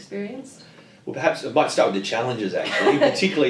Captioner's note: laughter